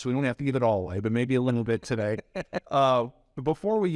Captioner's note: laughs